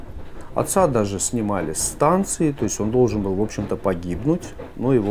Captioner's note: train